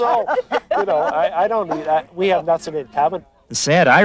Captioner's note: laughing